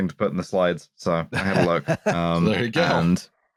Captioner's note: laughter